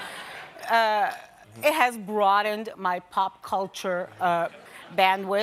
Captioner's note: laughter